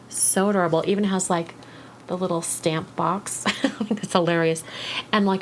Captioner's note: giggles